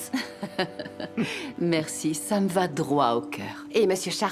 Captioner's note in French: rires